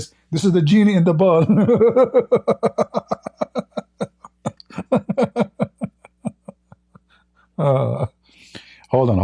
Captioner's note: Ketawa